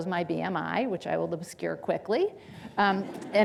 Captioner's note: audience laughing